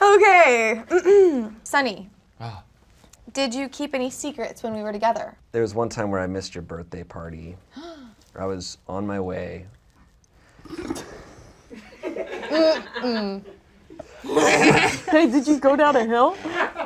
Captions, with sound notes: - Okay. Sonny, did you keep any secrets when we were together? - There was one time where I missed your birthday party. (gasps) I was on my way. (audience laughs) - Hey, did you go down a hill?